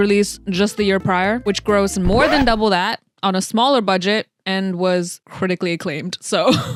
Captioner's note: record scratch